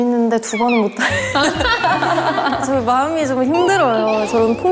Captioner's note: bursting with laughter